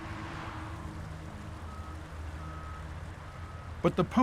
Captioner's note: truck beeping